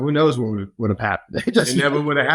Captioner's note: laughs